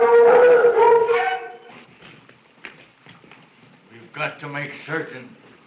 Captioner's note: dogs howling